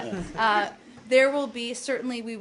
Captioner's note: laughter